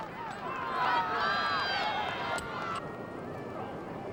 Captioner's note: crowd cheering